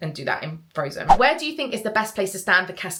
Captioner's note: screen fwipping